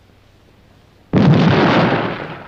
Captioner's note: explosion